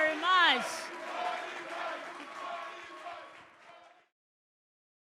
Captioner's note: audience clapping